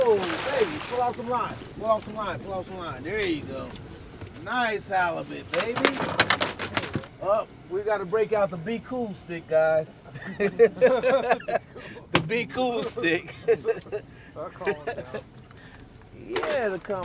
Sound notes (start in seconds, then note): 0.0 fish splashing; 5.6 fish thrashing; 10.1 laughing; 14.5 laughing